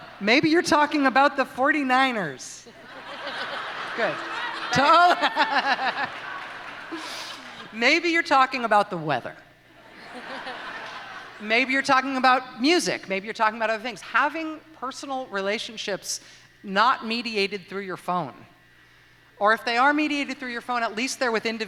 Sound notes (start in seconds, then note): 3.2 audience playfully jeers; 9.8 laughter